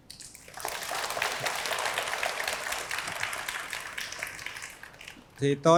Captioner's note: applause